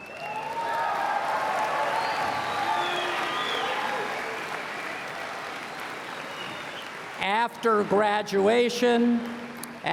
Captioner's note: cheers and Applause